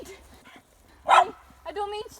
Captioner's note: dog barks